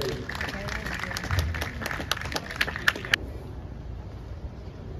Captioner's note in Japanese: 拍手